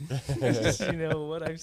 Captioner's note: laughing